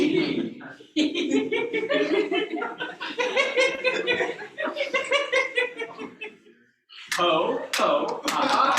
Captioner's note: laughter